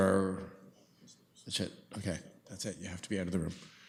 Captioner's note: clerk speaks off mic